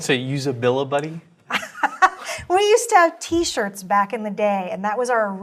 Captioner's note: laugh